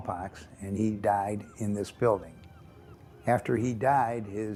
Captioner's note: gulls crying